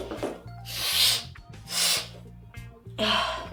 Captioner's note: sniffs